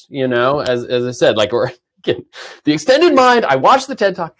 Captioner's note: chuckles